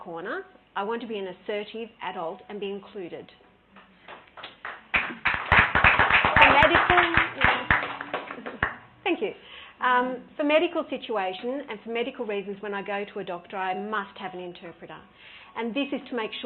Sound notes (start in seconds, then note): 6.3 clapping